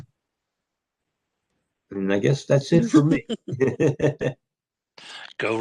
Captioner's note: laughter